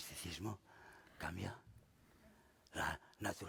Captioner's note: speaking spanish